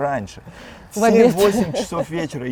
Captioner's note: laughs